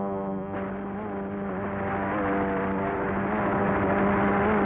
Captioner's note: continuous gunshots